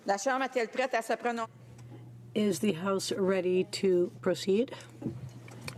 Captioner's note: speaking french